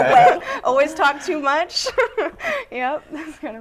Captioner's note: laughing; laughter; laughter; laughing